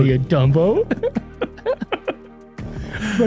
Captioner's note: laughter